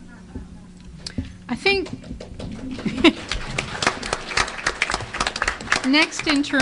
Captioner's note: applause